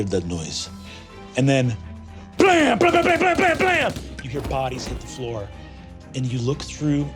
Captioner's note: mimics gunfire